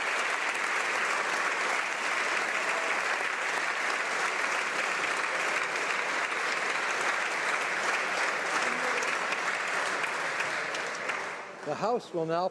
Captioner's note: applause